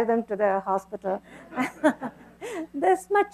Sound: laughter

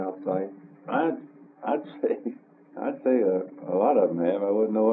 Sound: laughs

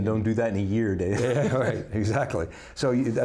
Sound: laughs

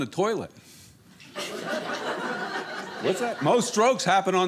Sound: audience laughing

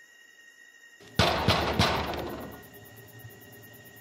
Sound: fist banging

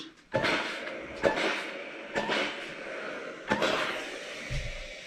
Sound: steam iron whooshing

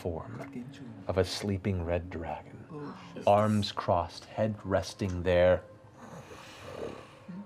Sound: snoring

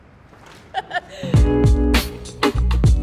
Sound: laughs

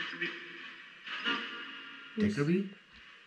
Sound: disembodied voice speaking softly

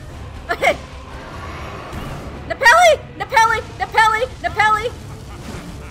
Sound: through laughter

